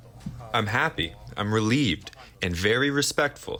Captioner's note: through translator